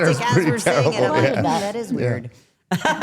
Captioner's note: laughs